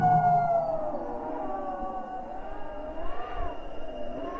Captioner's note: wolf howls